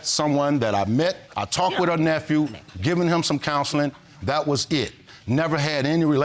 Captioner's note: none